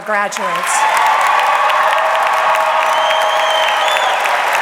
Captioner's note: audience clapping